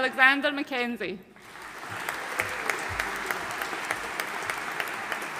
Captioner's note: audience applauding